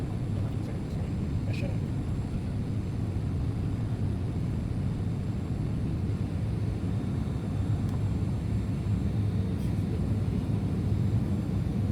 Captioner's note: aircraft sounds